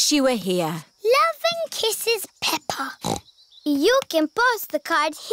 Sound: snorts

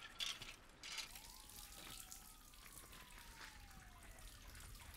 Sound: liquid dripping

